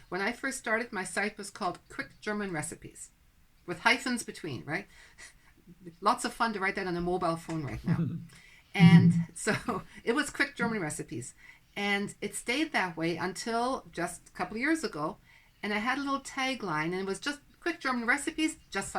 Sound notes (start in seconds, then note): 8.8 laughs